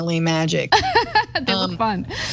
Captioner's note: laugh